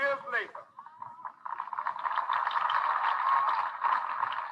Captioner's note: crowd applauding